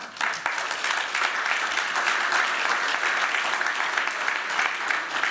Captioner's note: applause